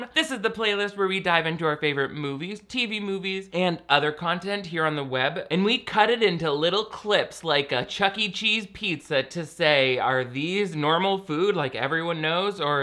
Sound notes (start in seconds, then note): none